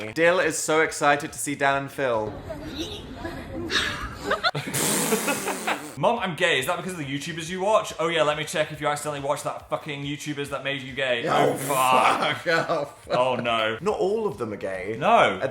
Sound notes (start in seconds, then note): 3.6 Dan and Phil laughing; 3.6 person laughing